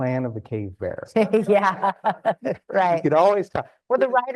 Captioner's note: laughs